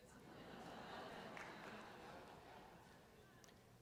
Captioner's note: laughter